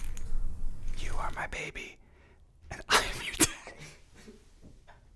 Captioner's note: laughs